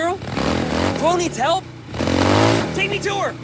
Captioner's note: engine revving